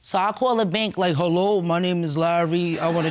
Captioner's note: in hoarse voice